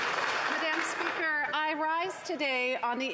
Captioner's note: some Applause